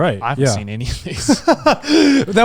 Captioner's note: laughs